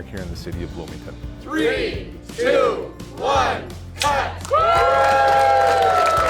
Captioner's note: cheers